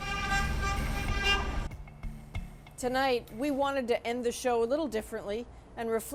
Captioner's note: horns honking